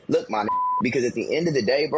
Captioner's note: beep